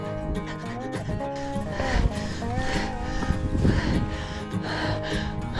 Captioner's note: howl